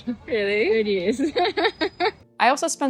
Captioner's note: laughs